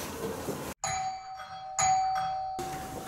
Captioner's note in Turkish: Kapı zili sesi